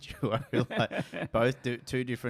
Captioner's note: laughs